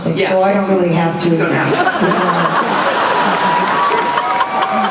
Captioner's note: laughter